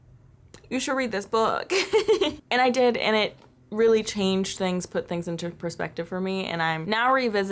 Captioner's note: laughter